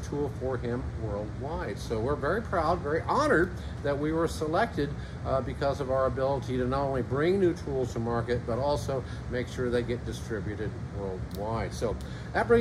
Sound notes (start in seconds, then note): none